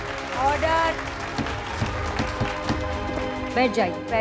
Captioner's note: Gavel bangs